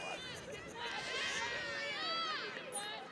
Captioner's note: laughs